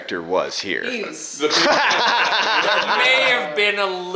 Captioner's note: laughing